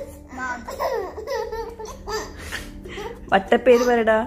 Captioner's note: laughing